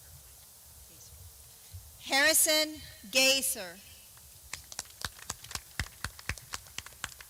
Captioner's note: clapping